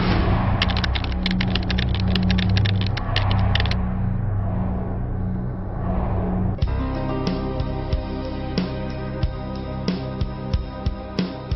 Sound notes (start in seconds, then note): 0.6 keys tapping; 7.4 suspenseful music